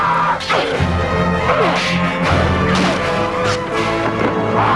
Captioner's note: both grunting